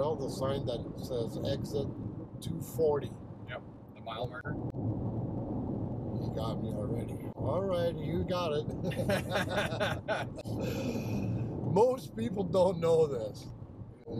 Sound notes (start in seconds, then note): 5.2 tires rumble; 8.7 both laugh